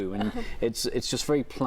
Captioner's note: laughs